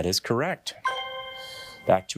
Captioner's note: bell dinging